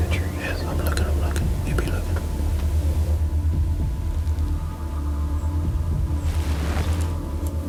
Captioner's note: whispering